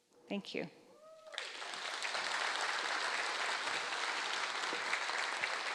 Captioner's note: audience appluading